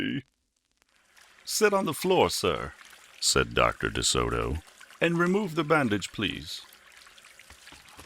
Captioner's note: hands washing